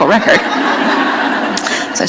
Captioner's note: laughter